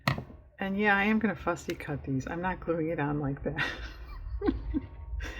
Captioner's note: laughs